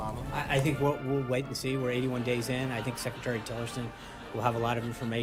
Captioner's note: raucous laugh track